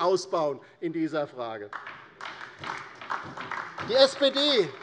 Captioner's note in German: Beifall